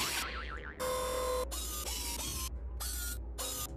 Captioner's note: whirring